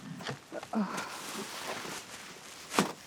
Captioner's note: Helen grunting